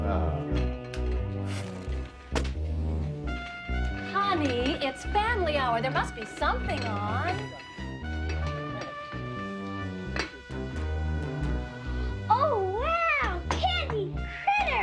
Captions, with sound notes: (book thudding) - Honey, it's family hour. There must be something on. - Oh, wow, candy critters.